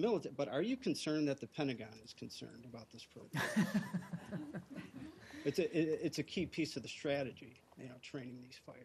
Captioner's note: laughter